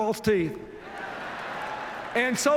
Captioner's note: laughter